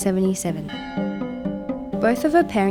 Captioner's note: bell rings